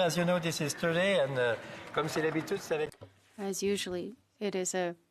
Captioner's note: speaking FRENCH